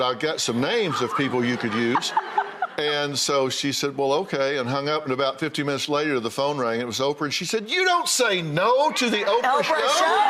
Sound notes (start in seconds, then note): 1.1 Rachael laughs